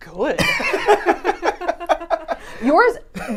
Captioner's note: both laughing